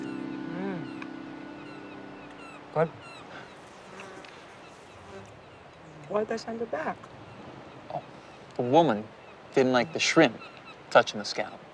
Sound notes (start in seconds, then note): 2.7 flies buzzing; 2.7 seagulls cawing